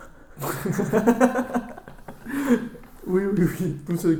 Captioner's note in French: Rire de personnes wokes